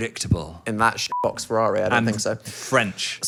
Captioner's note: beep